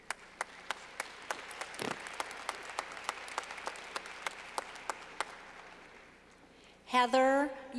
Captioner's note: clapping